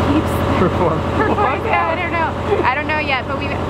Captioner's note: chuckles; laughs